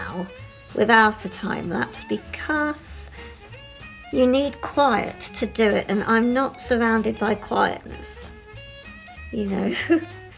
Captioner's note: laughing